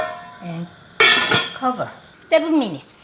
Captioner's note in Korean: 냄비뚜껑 닫는 소리